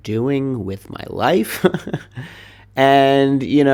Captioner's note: laughs